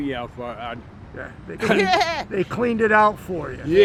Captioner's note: laughs